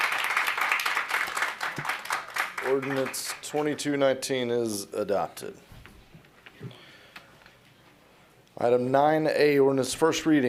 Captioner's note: applause